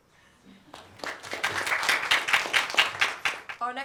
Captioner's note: applause